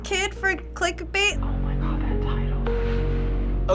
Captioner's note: Shane whispers